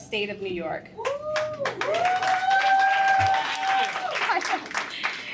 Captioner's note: applause